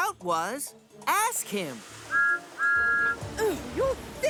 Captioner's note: whistle toots